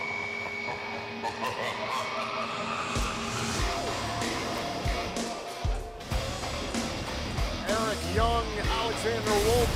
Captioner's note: evil laughter